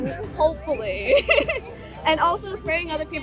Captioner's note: laughing